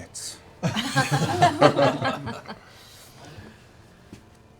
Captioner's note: laughter